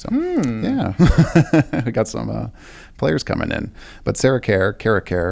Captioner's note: laughs